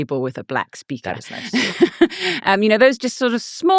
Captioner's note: laughing